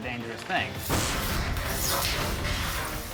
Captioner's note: explosion